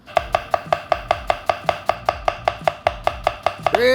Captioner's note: knife clacking